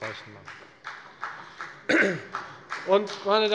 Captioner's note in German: Beifall bei der FDP